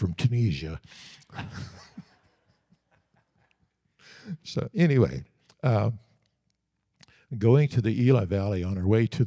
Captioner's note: audience Laughing